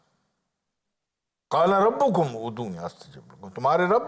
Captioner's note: Arabic